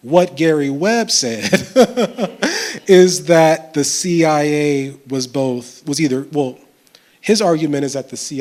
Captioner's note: chuckles